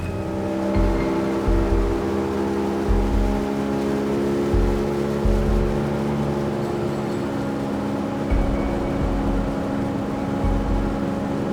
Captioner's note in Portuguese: som de motor do barco